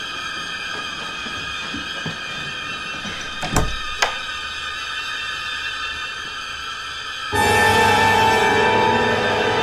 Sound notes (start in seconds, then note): 3.1 door lock